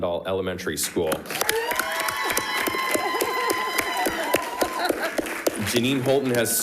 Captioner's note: crowd clapping; crowd cheering